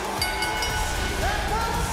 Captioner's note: bell ringing